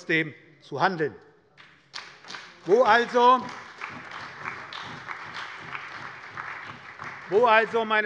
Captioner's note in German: Beifall bei der SPD